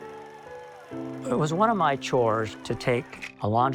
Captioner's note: somber piano; crowd cheering